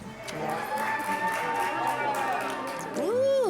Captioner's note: cheers & Applause